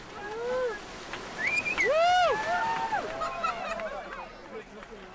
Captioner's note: cheering